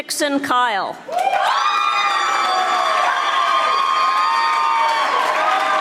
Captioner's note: audience applauding